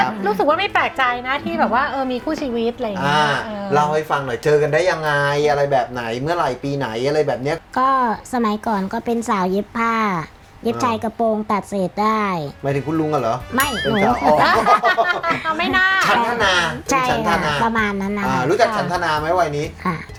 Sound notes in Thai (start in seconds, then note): 13.6 เสียงหัวเราะ